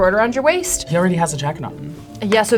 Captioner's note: laughs